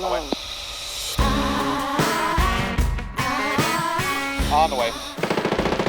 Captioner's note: singer hums; dramatic music continues; gun shoots